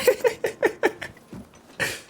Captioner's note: laughing